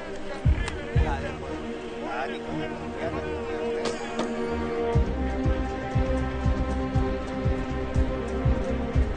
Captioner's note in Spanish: Conversación indistinta